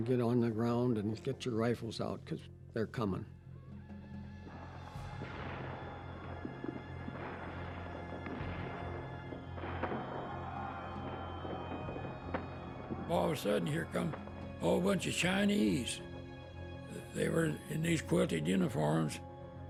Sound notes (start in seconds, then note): 5.0 explosions; 9.9 men shouting